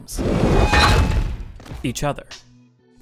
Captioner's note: armor slamming